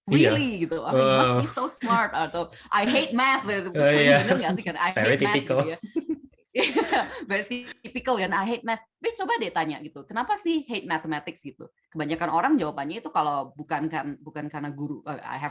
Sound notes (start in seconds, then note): 6.8 laughs